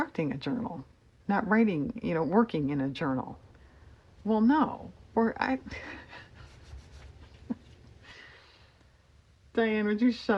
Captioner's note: laughs